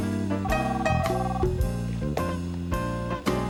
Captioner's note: telephone ringing